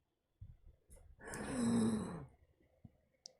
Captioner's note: inhales